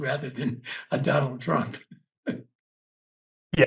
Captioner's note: laugh